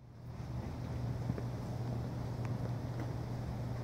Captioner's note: outdoor ambience sound